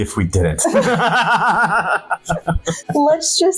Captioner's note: both laughing